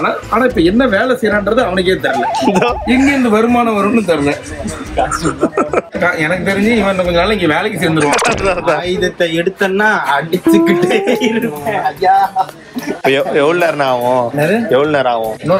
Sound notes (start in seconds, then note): 4.6 laughs